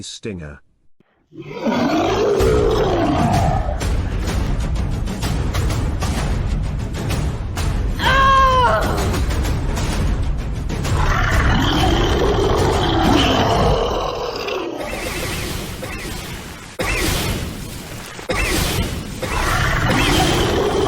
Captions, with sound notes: On The Deadly Stinger... [Monster Roar] [War Drums] [Shouting] [Monster Roar] [Wall Crashing Down] [Monster Roaring]